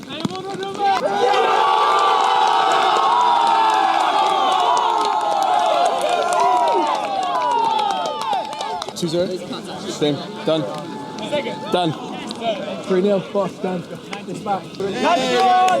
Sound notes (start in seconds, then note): 1.0 cheering; 5.3 applause